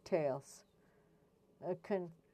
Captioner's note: speaking French